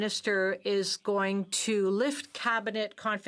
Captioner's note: speaking French